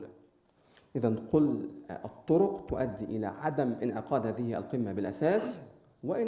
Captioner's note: speaking in foreign language